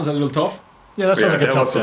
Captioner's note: laughs